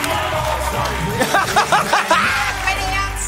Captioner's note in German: Gelächter